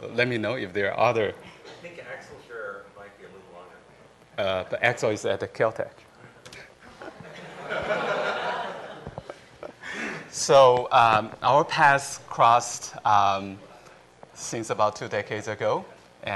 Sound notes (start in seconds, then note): 6.8 laughter